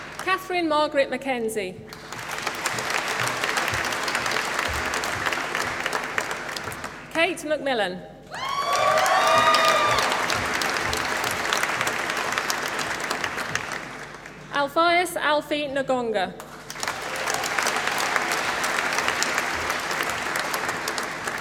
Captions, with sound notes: Kathryn Margaret McKenzie. (APPLAUSE) Ceit Macmillan. (APPLAUSE) Alphaeus Alphie Ngonga. (APPLAUSE)